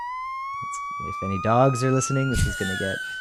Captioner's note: tone goes higher; laughs